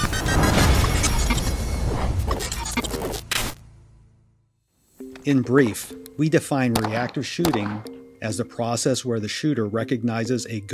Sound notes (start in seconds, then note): 0.1 dramatic music; 2.3 static crackles